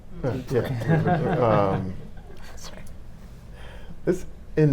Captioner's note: audience laughing